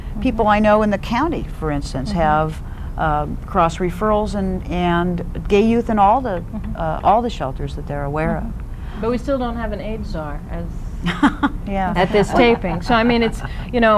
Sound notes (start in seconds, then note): 12.0 laughter